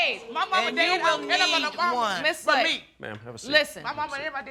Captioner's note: arguing